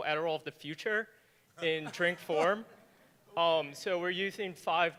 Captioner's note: audience laughing